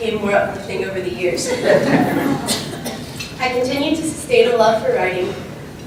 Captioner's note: laugh